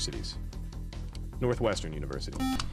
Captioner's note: beep